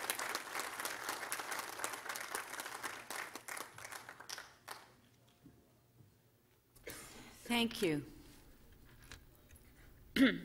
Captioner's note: applause